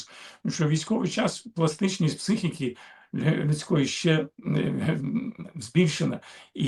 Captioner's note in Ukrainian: прочищення горла